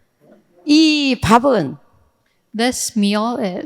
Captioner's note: speaking in foreign language